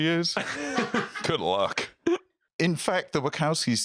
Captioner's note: laugh